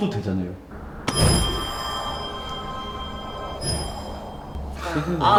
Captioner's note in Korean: 효과음